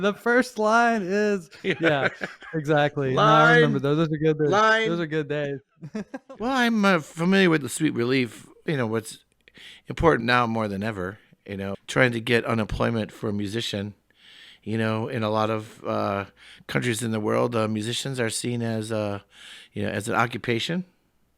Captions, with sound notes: The first line is, yeah, exactly. - (chuckles) Line. - I remember those... - Line. - Those are good days. (laughs) - Well, I'm familiar with the Sweet Relief. You know, what's important now more than ever, you know, trying to get an employment for a musician. You know, in a lot of countries in the world musicians are seen as, you know, as an occupation.